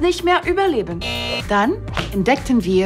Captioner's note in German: Buzzer